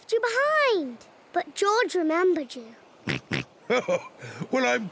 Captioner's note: oinks; chuckles